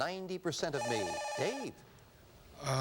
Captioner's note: buzzer